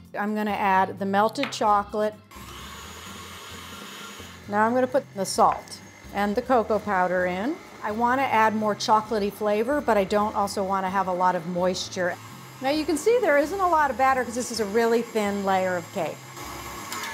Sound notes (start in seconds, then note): 2.4 mixer whirring